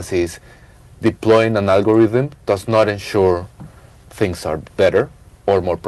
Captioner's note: none